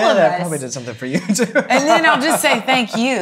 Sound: laughs

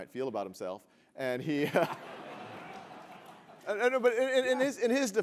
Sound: laugh

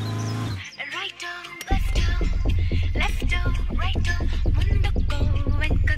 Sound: ring Tone

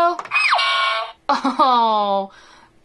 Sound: scream and sire buzz

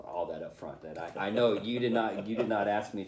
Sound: laughter

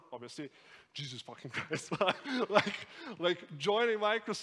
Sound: laughs

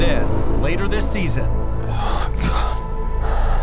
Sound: sobs; tense music

